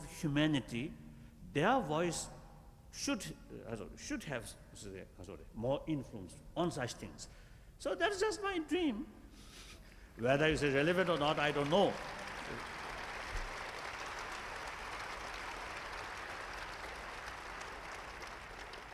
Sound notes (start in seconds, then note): 9.0 laughs; 16.1 applause